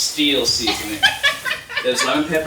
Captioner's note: laughing